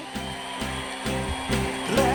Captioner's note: whirring sound; pop song